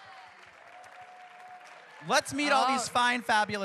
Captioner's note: cheers and applause